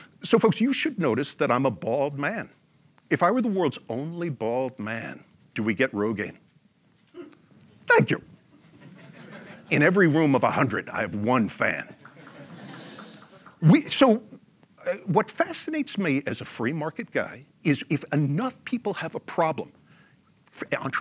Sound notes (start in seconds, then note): 8.7 audience laughs; 12.0 audience member claps; 12.0 audience laughs